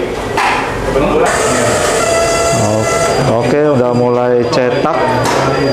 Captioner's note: distant chattering; hitting sound; printer machine sound; distant chattering